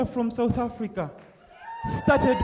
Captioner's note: cheering